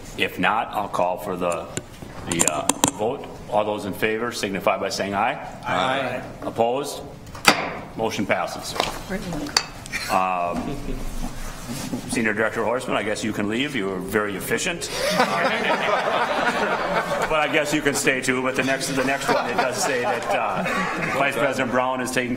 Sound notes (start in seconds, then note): 7.4 gavel striking sound block; 14.8 people laughing